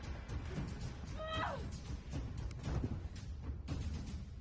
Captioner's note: Mona cries out in effort